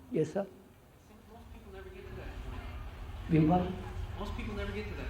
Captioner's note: laughs